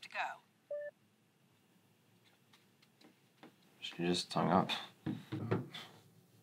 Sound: phone beeps

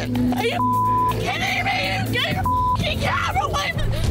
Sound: beep

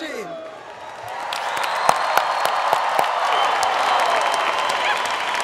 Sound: applause

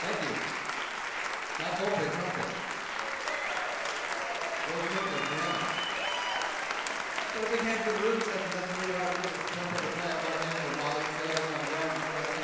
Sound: applause drowns speech

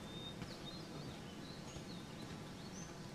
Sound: footsteps

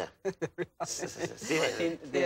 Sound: laughing

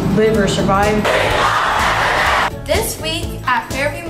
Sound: cheering

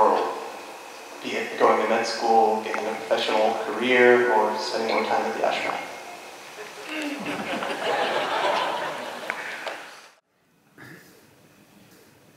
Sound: laughter

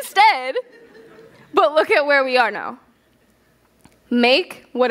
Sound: laughter

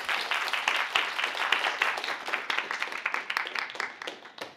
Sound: applause

